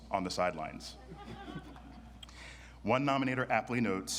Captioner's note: audience laughs